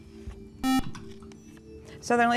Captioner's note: buzzer